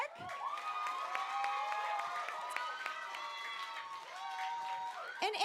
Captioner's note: applause